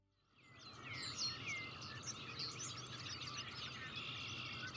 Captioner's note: birds singing